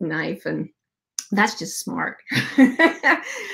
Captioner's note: laughs